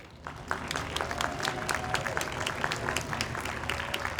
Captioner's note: audience applauds